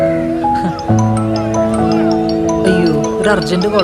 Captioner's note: phone ringing